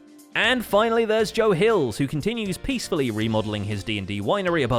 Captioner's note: none